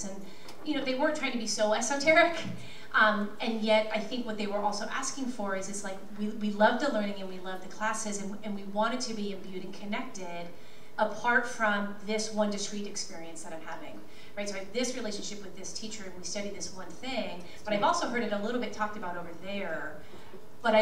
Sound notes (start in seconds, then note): none